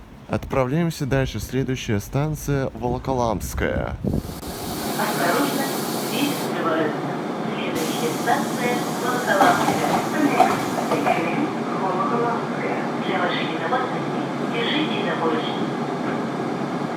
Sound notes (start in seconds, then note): 7.7 closing doors; 16.1 train leaves to the next station